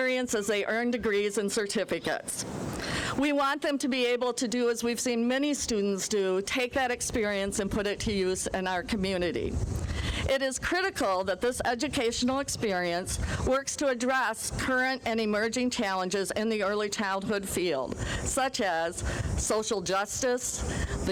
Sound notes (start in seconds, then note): none